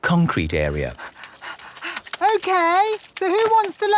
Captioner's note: panting